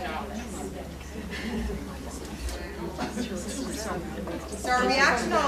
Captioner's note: people chattering